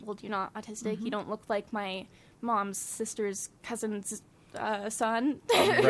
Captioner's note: laughs